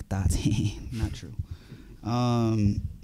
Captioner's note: chuckles